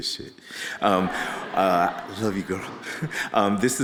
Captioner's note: audience laughing